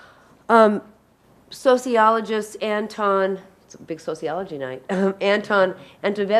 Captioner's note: chuckles